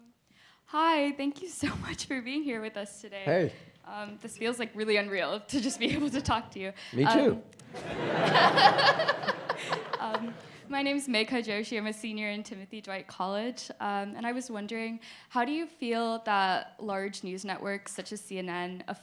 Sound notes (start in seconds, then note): 7.7 audience laughing